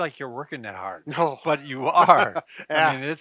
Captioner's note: laughing